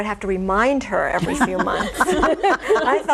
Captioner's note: all laughing